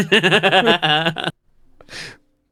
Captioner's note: laughing